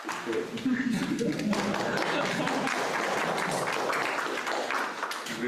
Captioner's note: applause